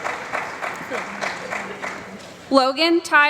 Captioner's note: applause